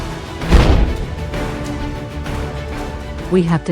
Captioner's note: large explosion; boom